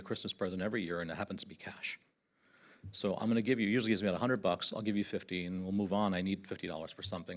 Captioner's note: none